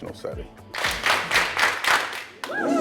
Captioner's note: clapping